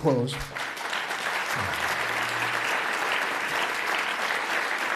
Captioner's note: audience applauds